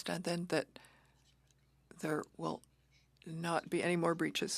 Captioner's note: speaking French